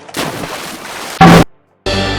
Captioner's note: explodes killing everyone